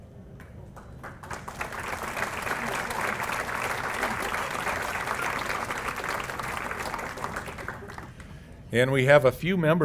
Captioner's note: applause